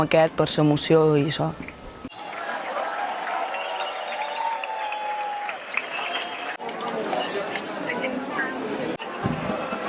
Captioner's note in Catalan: Aplaudiment